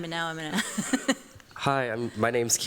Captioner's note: chuckles